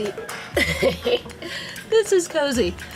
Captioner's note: laughing